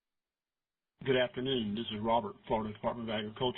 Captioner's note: voiceover